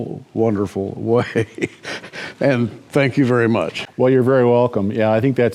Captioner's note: chuckles